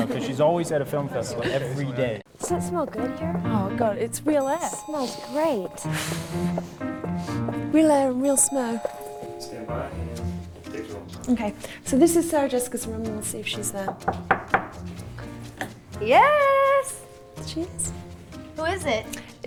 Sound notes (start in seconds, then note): 13.8 knocks